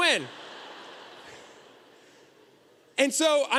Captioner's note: audience laughter